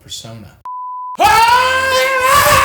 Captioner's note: screen screeching